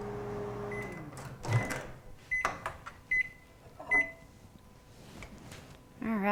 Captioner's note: beeping sound